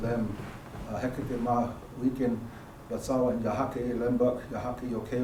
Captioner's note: speaking elem